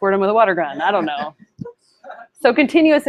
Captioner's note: laughter